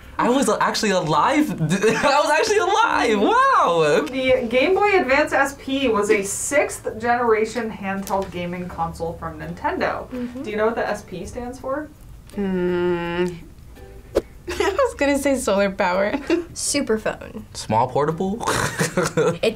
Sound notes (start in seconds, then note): 15.9 laughs; 18.5 laughs